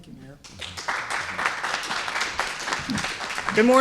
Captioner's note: applause